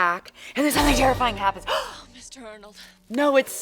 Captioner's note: gasps